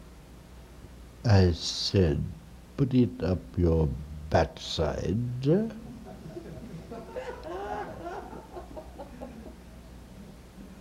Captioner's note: laughter